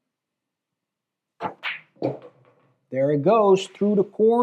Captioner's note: balls clacking